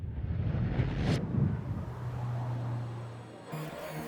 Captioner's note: traffic buzzing